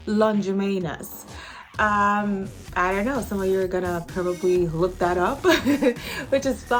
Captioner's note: laughs